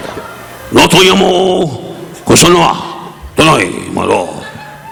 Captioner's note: Don speaking in Japanese